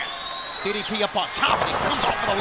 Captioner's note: crowd cheering